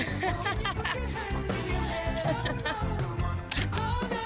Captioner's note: laughter